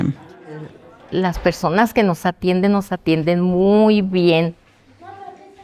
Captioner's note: speaking spanish